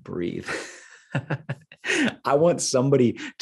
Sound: laughing

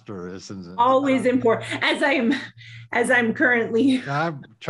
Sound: laughs

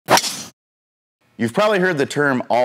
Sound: golf club whacks

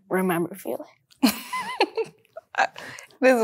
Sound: laughs

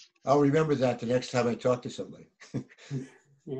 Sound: people laughing

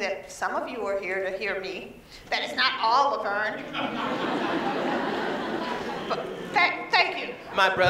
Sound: laughter

